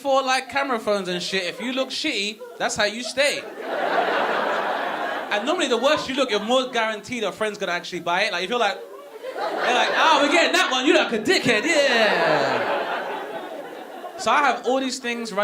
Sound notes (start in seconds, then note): 3.6 audience laughing; 12.2 audience laughing